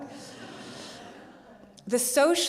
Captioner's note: audience laughs